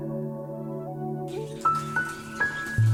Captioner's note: nature sounds